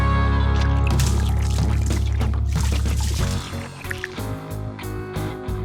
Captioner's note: paint splattering; ticking